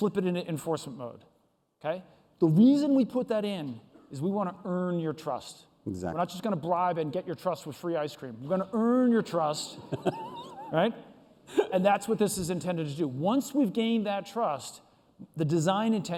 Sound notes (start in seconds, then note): 9.6 laughter